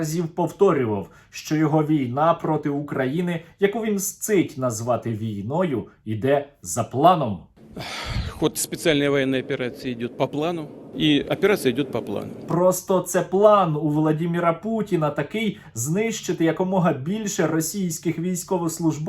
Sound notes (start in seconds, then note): 7.7 sighs